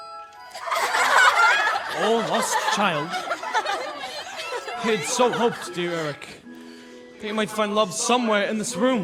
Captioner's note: laughter